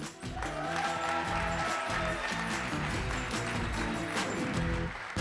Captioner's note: applause